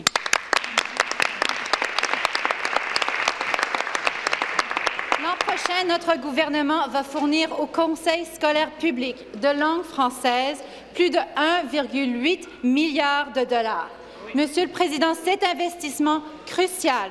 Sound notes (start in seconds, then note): 6.5 applause